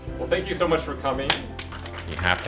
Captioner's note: class applauds